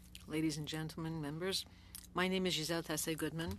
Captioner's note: speaking French